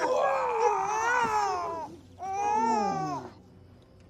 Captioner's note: babies crying